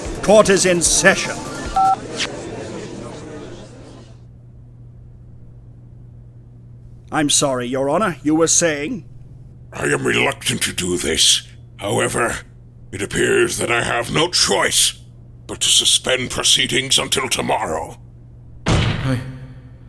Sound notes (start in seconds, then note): 1.7 beep!